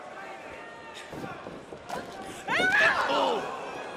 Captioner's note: crowd chatter